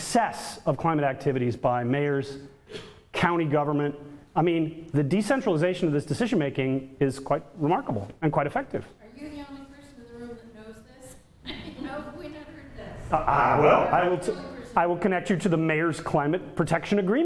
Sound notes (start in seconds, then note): 10.6 audience laughter